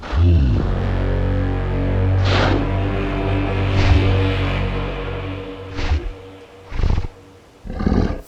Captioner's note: Dire wolf sniffs the ground